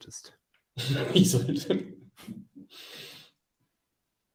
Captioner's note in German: lacht